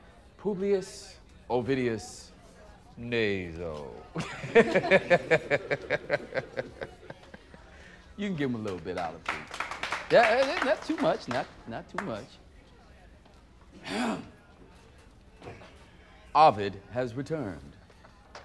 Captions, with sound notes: Publius... Ovidius... Naso. [laughs] You can give him a little bit, Olive Tree. [applause] Eh-- eh-- not too much, not-- not too much. [clears throat] Ovid has returned.